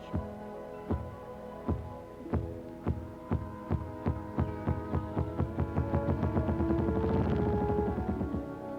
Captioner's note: grouse drumming sound